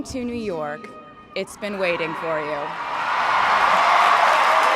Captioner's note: crowd cheering and applauding